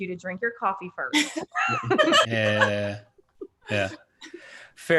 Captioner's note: laughing